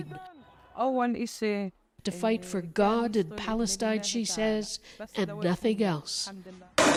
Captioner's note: speaking alternate language